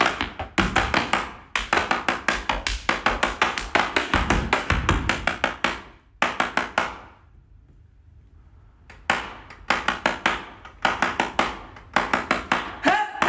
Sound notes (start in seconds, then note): 0.0 energetic hand claps and feet stomps; 6.3 rhythmic hand clapping